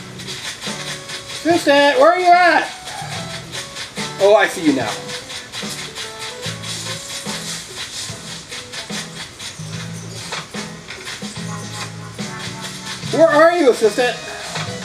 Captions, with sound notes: Assistant, where are you at? Oh, I see you now. (leaves rustling) (footsteps) Where are you, assistant?